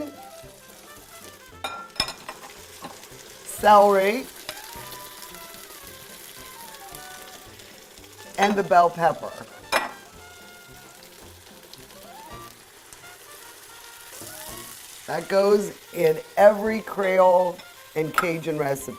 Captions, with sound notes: celery, and the bell pepper. (light sizzling) That goes in every Creole and Cajun recipe.